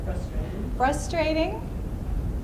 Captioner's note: voiceover